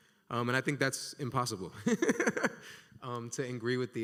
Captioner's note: laughs